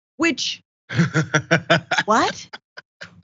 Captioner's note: laugh